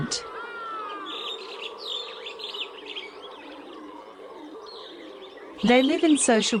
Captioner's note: forest and howler monkey sounds